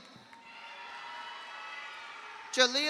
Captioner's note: audience applauds; audience cheers